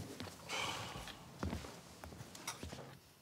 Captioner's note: sighs